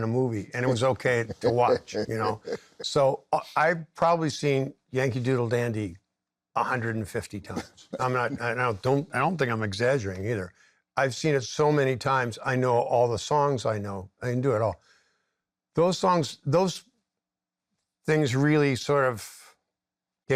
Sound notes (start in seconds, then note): 2.0 laughs